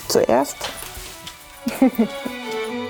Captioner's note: she laughs